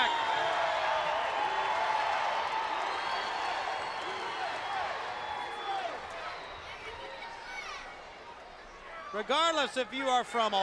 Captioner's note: crowd cheering